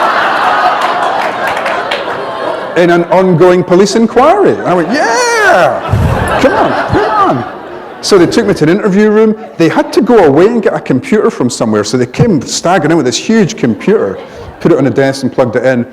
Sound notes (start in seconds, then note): 0.0 laughter; 7.4 laughter